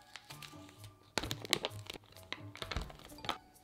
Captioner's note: plastic crumpling